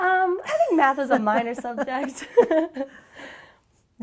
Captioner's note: chuckles